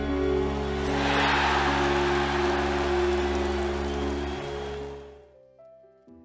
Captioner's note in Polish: Aplauz